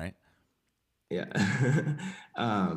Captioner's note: chuckles